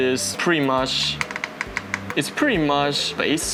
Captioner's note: knocking